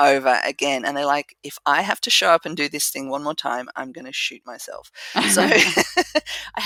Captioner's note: laugh